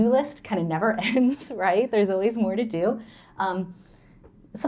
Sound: laughter

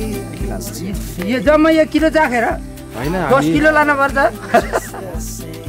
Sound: giggle

